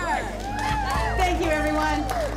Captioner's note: attendees agreeing, clapping